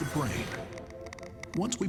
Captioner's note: wires crackling